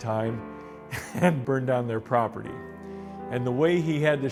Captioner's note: laughs